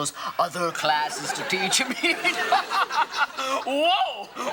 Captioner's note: laughs